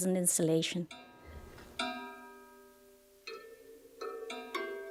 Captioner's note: plates chiming